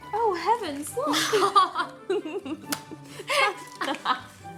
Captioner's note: both laughing